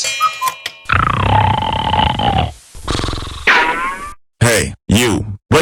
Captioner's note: snoring